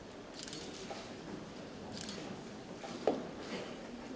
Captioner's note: camera clicks